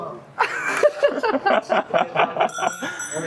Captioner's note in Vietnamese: tiếng cười